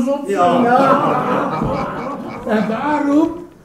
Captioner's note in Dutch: lachen